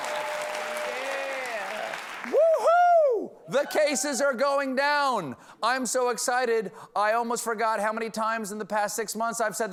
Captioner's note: cheers and applause